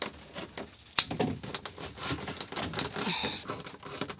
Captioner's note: snipping